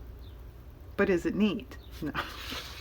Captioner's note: laughs